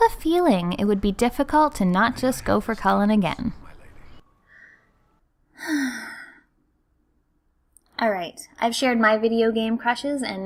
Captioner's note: sigh